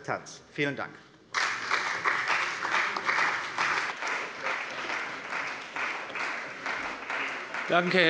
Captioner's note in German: Beifall bei der CDU und dem BÜNDNIS 90/DIE GRÜNEN